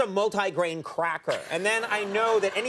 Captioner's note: audience laughing